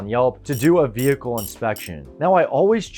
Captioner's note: wrench rattles